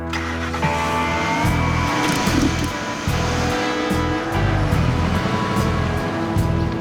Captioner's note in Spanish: Ruido del vehículo